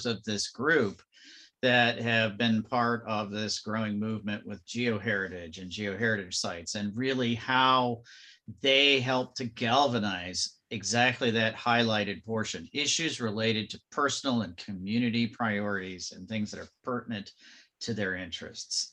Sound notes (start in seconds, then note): none